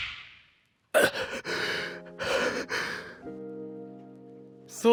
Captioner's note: groans in pain